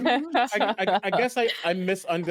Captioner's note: laughs